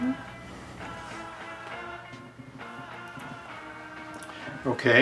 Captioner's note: man vocalizing